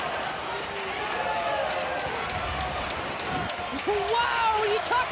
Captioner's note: audience cheering